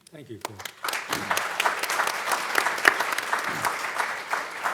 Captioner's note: audience clapping